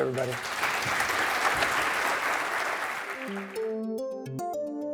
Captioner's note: audience clapping